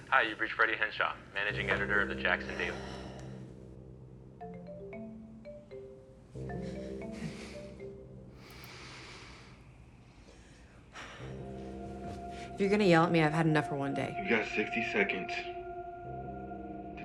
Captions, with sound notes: - Hi. You've reached Freddy Henshaw. Managing editor of the Jackson Daily... (video call ringing) - If you're gonna yell at me, I've had enough for one day. - You've got 60 seconds...